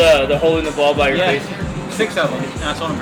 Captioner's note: laughs